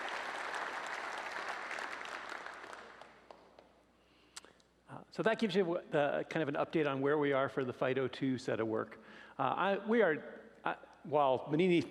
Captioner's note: applause